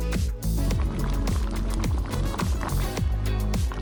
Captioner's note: bubbling